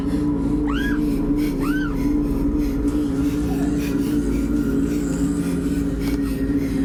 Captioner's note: gritos; respira fuertemente